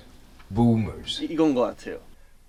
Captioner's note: american pronunciation